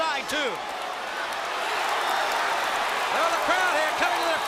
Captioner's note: crowd cheering